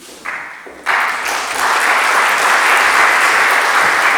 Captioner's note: audience applauds